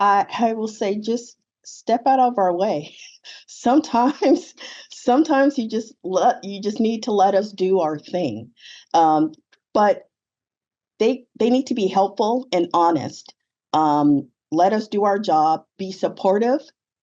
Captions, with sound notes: - I will say, just step out of our way. (chuckles) Sometimes you just need to let us do our thing, but they need to be helpful and honest. Let us do our job, be supportive,